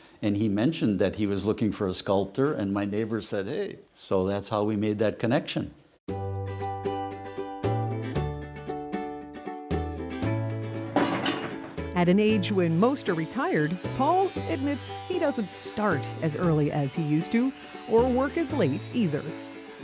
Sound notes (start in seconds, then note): 6.0 lively music; 11.0 metal clacks